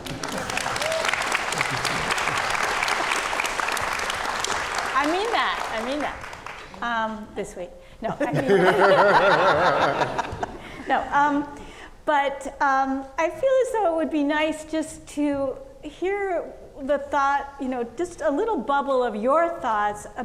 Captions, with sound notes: (audience clapping) I mean that, I mean that. This way. (audience laughing) No, but I feel as though it would be nice just to hear the thought, just a little bubble of your thoughts